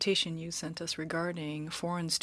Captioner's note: speaking French